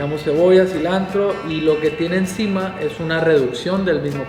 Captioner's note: speaking Spanish